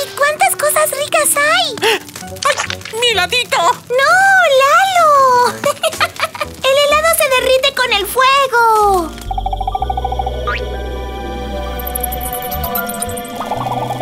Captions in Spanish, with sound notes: Y cuántas cosas ricas hay Ah! Mi heladito Noo Lalo (Risas) El helado se derrite con el fuego (Sonido de selva)